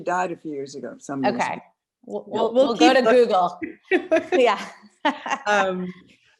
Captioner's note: laughter